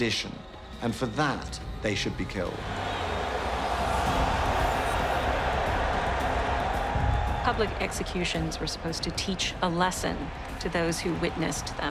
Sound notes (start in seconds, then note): 2.8 cheering